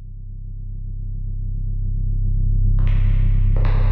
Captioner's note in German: Dumpfes und lauter werdendes Dröhnen